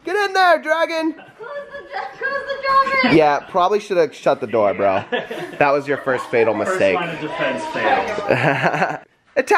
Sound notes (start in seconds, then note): 5.0 adults laughing; 8.1 laughs